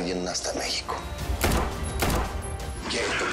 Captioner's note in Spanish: Disparos